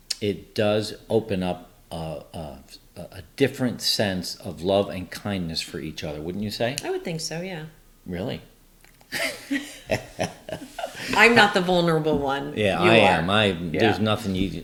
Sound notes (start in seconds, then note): 9.2 laughs